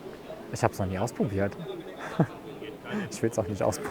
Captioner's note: laughing